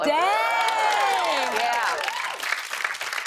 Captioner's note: cheers and applause